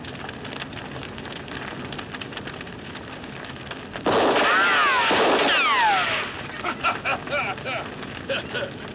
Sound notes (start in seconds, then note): 4.0 gunshots continue; 6.5 Luke laughing